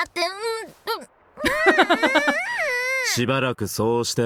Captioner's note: chuckles